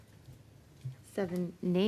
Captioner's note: speaking French